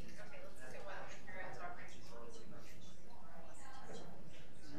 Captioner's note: speaks faintly; people chattering